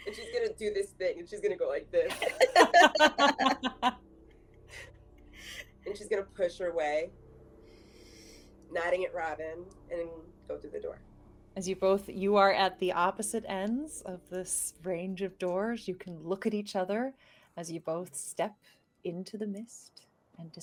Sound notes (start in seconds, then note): 2.1 laughing